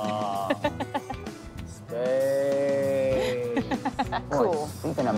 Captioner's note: laughing; monotone